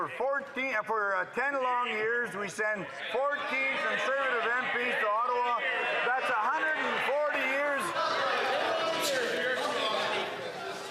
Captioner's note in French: voix de l'interprète